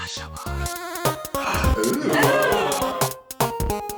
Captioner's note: gasp